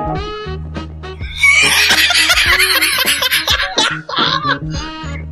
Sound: laughing

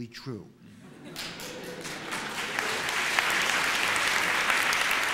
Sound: applause

